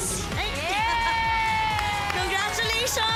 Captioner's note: crowd cheers